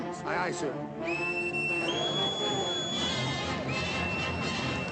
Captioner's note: whistle